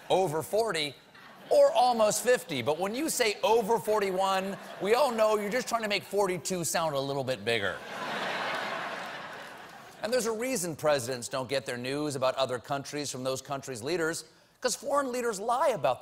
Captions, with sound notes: WE ALL KNOW YOU'RE TRYING TO MAKE 42 SOUND BIGGER. ( LAUGHTER ) AND THERE'S A REASON PRESIDENTS DON'T GET NEWS ABOUT OTHER COUNTRIES FROM THOSE COUNTRIES' LEADERS.